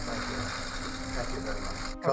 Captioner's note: camera shutters clicking